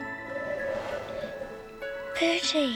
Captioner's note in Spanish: soplando aire